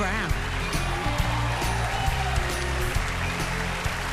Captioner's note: cheering and applause